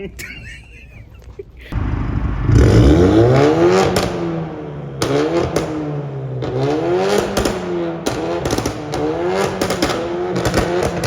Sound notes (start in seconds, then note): 0.0 both laughing; 1.7 car engine revving; 8.0 car exhaust popping